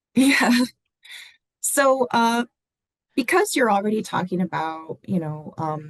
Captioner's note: laughter